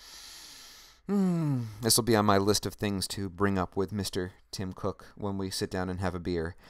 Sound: sighs

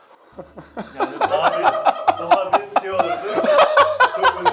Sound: laughter

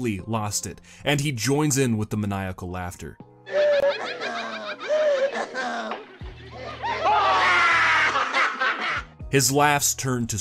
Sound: Sounds of Ash losing his figgin' mind bro

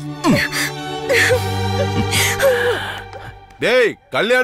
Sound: crying

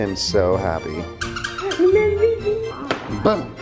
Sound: toy squeaking

